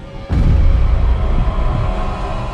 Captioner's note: sound of Bullet Time triggering